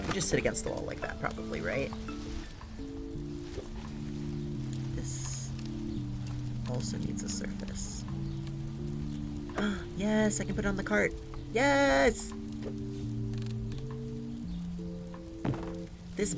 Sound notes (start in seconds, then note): 6.4 gasps